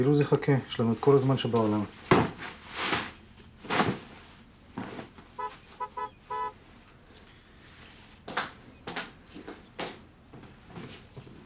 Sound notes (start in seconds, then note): 5.3 car honking